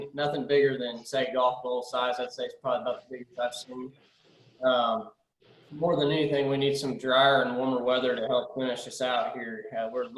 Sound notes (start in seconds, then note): 3.4 audio is choppy